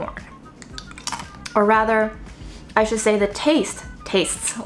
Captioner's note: chip crunching